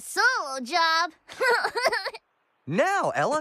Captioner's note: giggles